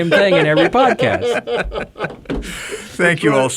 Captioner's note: men chuckle